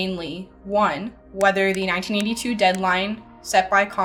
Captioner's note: words click